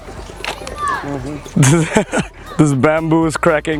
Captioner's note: laughs